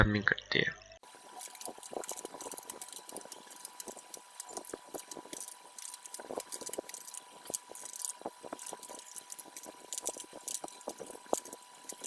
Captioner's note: typing